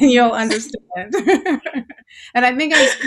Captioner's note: laughing